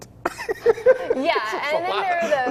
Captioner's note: laughs